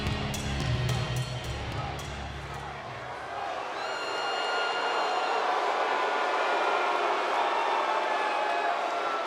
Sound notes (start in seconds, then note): 4.0 audience cheers